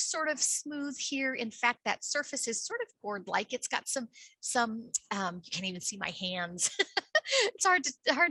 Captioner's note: laughs